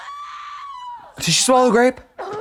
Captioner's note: Brooke screams